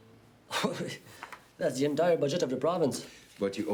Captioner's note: laughs